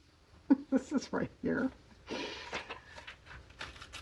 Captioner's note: laughs